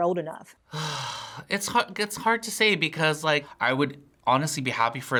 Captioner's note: sighs